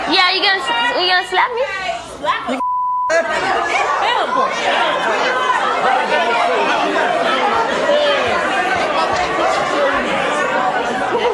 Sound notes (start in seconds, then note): 3.4 audience hollering